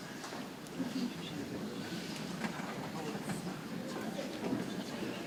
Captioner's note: people chattering softly